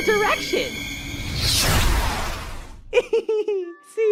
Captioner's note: loud laser sound